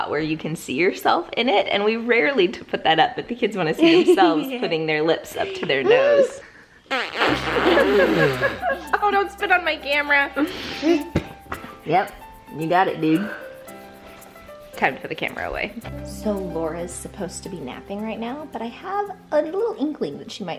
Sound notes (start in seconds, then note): 6.9 blowing raspberries; 7.3 laughing